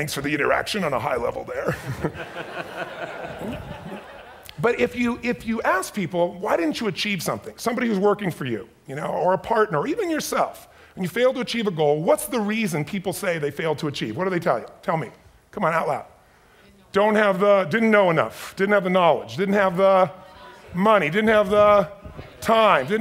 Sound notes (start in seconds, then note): 1.6 audience laughs